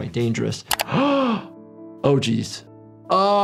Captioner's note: gasps